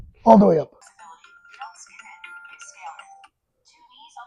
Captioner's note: phone ringing